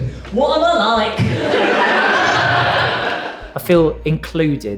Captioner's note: audience Laughs